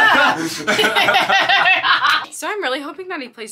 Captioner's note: group laughing